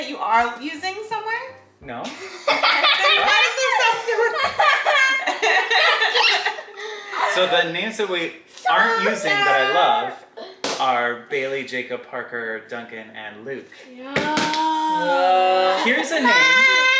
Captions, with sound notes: you are using somewhere? - No. (family laughing) - Then why does it sound... (laughing) - So the names that we aren't using that I love are, Bailey, Jacob, Parker, Duncan, and Luke. - Ugghhhhh! - Here's a name...